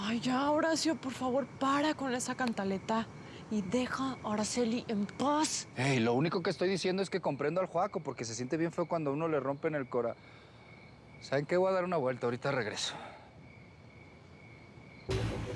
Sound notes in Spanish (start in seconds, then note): none